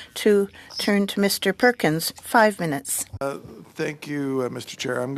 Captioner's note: speaking French